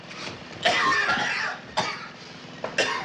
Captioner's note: coughing